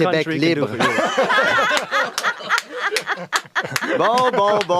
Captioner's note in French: rires